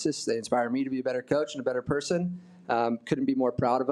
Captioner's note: none